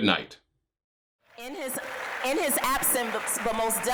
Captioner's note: applause